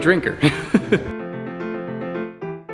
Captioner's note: orchestral music; laughs